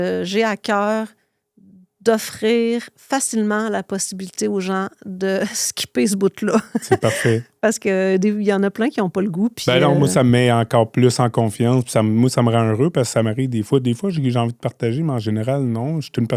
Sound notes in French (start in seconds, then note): 6.6 rires